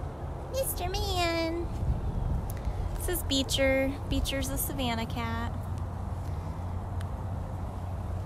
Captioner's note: wind